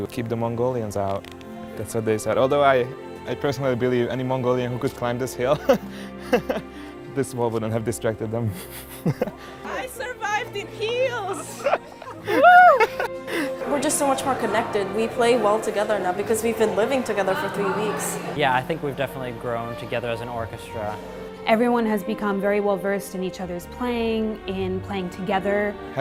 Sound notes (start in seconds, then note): 10.5 laughs